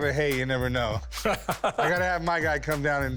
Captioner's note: laughs